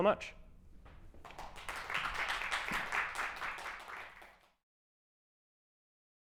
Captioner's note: applause